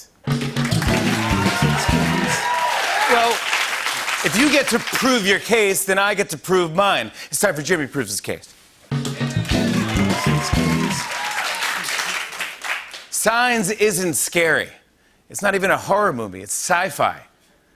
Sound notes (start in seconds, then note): 0.6 cheers and applause; 9.2 cheers and applause